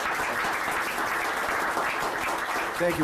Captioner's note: applause